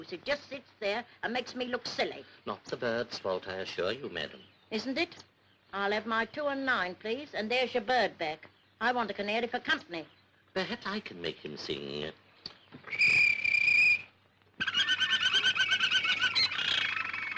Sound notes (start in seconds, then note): 12.8 whistle; 14.7 bird trilling